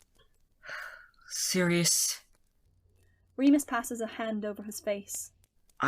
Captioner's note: Remus sighs